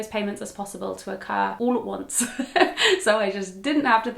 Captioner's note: laughs